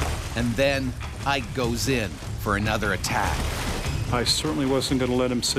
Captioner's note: voiceover